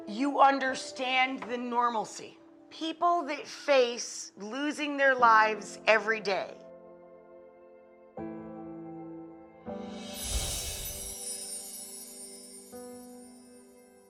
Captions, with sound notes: you understand the normalcy. People that face losing their lives every day. (melancholic music) (bells twinkle)